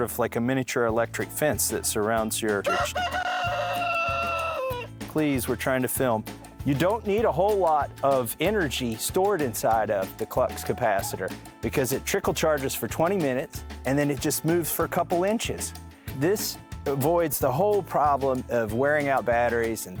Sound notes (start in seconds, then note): 2.7 chicken clucking